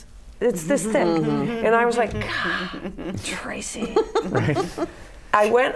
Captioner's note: laughter